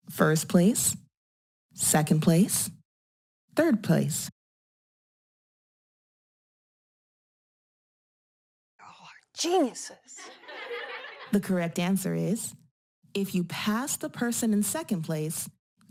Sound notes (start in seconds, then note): 10.1 laughter